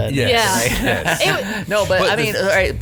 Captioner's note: group laughing